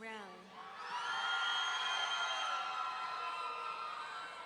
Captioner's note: audience cheering